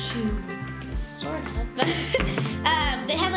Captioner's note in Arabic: يضحك